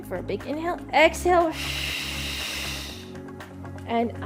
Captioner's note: exhales sharply